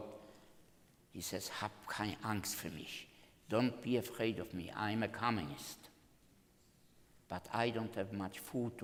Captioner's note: speaking German